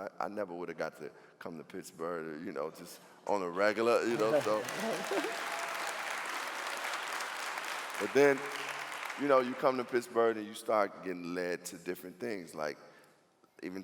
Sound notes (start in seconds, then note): 4.0 clapping